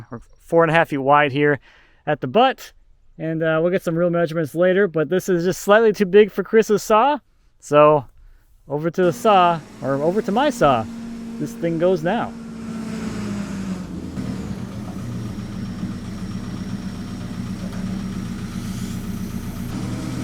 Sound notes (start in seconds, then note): 13.2 forklift rumbles